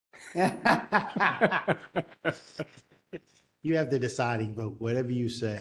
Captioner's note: laugh